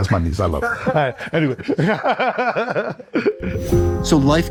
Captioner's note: laughs